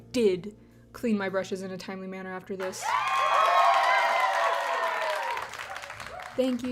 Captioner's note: crowd cheers